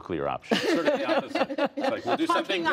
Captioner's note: laughter